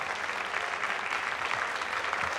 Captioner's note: applause